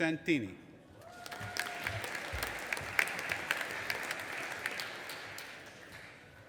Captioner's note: audience applauding and cheering